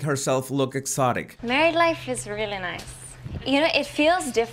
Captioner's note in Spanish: Acento latino